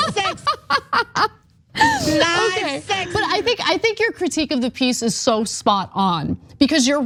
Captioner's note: laugh